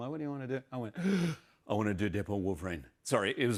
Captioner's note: gasps